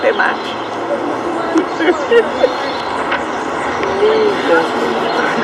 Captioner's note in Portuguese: risadas